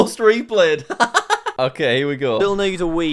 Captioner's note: laughs